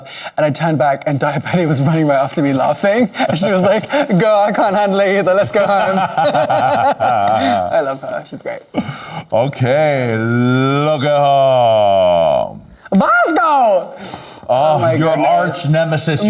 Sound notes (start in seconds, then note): 5.7 both laughing